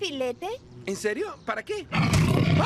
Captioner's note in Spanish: rugido